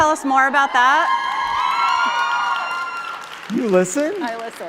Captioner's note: cheering